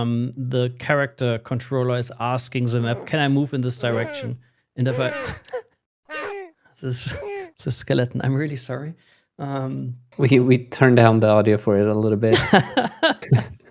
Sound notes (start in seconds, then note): 4.8 game grunting noises; 6.1 laughing; 12.3 laughter